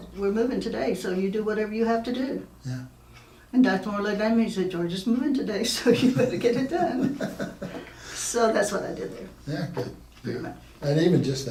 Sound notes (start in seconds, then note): 6.1 laughing